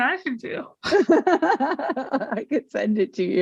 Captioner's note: interviewer laughs